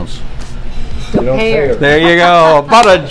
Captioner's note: laughs